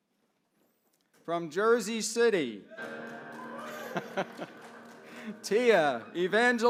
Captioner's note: laugh